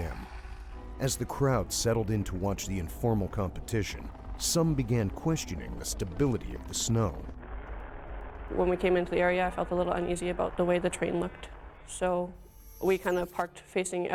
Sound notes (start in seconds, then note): 8.3 voiceover